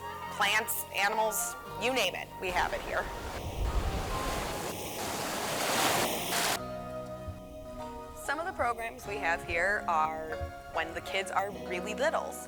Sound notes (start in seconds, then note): 2.4 wave crashes; 7.0 bright instrumental music